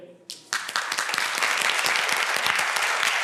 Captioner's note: applause